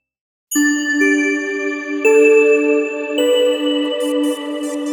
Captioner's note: bells chiming